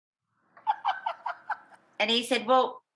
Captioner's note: laughing